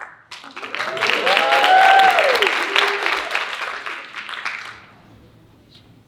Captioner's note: audience cheering and applauding